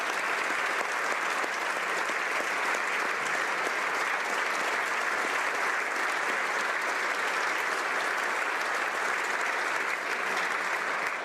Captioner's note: applause